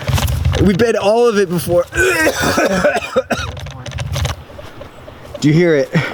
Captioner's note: heaving